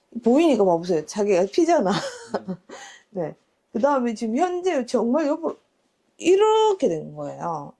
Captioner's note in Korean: 웃음